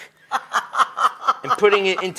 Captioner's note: laughs